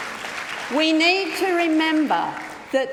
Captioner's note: applause